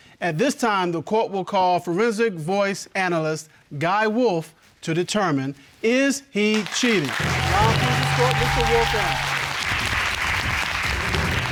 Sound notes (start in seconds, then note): 6.5 audience applauds